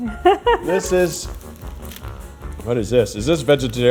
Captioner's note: laughing